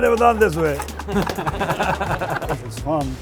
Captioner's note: everyone laughs